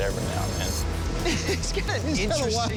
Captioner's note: laughing